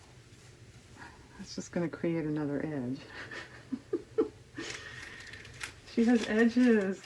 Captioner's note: laughs